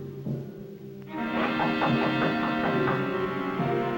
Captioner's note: knocks